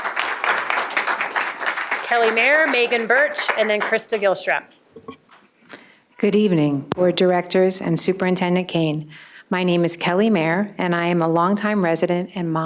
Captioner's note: applause